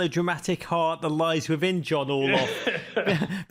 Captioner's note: laughs